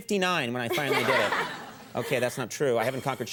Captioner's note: all laugh